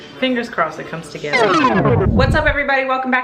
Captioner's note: record scratching